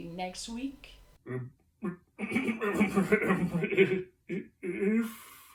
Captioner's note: clears throat